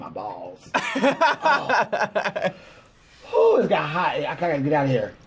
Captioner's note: laughs